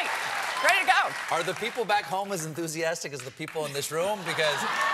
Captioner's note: cheers and applause